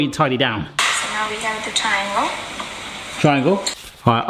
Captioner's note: woman speaks on video on phone